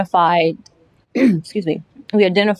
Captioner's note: clearing throat